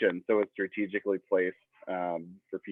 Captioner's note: none